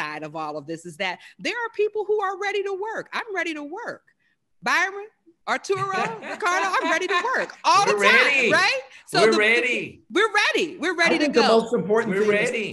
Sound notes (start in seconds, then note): 6.5 laugh